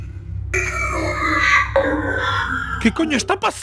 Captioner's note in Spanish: Voz distorsionada